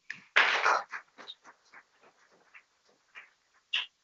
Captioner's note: people clapping